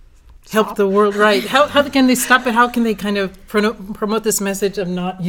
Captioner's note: laugh